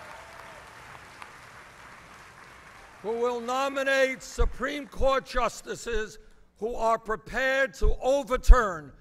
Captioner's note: applause